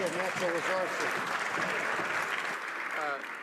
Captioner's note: some Applause